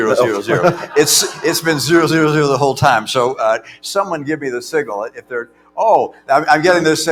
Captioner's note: laughter